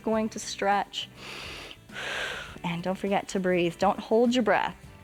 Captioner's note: breathes deeply